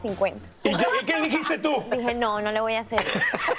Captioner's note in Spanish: risas